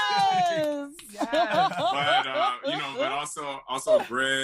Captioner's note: laughs; cheering